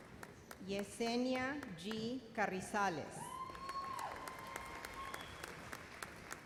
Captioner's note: cheers and applause